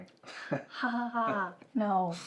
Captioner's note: Ben chuckles